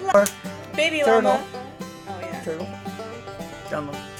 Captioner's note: hands slapping